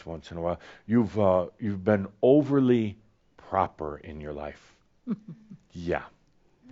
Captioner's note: she chuckles softly